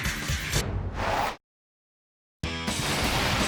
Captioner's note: rock music; air whoosh; energizing music; glass shattering